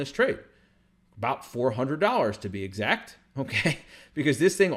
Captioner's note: chuckles